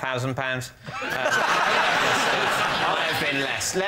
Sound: laughter

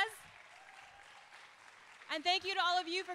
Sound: audience applauding

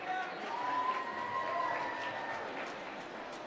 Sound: cheering

